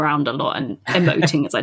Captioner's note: laughs